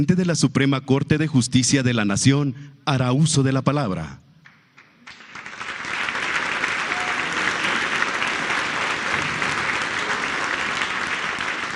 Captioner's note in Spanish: aplausos